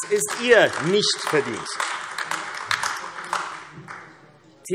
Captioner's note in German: Beifall AfD